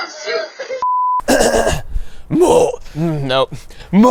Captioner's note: clearing throat